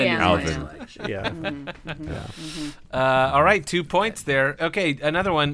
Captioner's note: murmured agreement